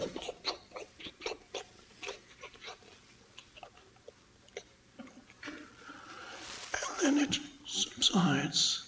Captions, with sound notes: (Eckhart makes a clicking sound) And then it subsides and then the body gets restless